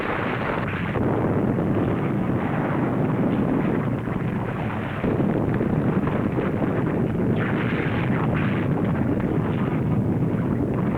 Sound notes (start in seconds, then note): 3.4 volcano rumbling